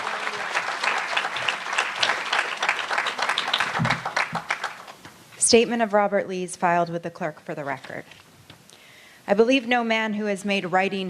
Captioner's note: applause